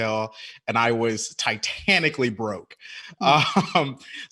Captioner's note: laughing